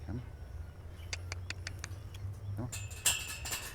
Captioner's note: clicks teeth